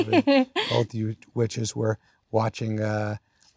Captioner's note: laughs